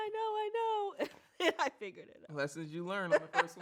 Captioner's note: laughs